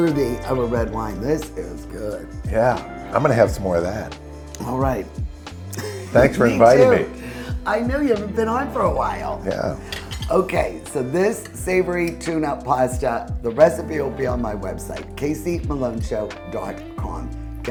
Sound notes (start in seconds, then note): 5.7 laughing